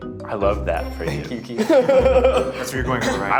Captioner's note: laughs